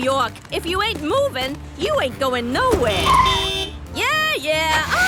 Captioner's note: honking